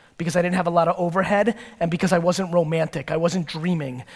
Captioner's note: none